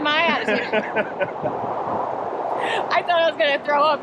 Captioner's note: laughter